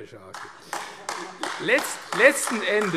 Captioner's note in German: Beifall AfD